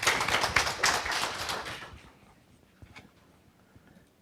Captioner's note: audience claps